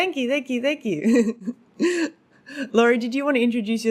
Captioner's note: laughing